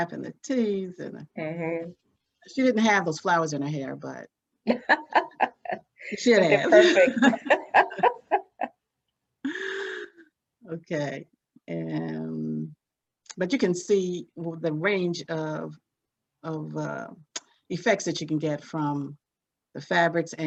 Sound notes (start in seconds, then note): 4.6 laughs